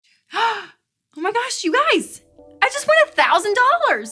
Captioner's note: gasping